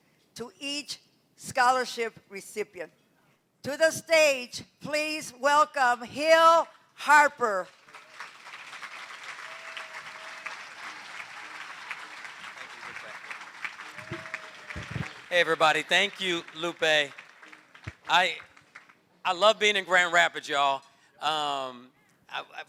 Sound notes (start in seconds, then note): 7.8 applause